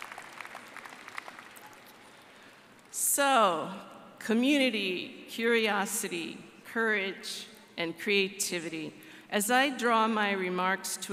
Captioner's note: applause